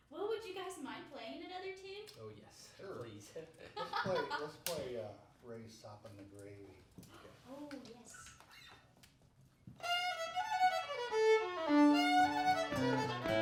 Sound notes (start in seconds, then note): 3.4 laughing; 11.4 upbeat old time music